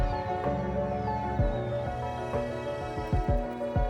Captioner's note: birds singing loudly; birds singing softly